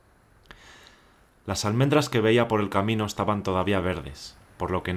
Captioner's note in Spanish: Voz en off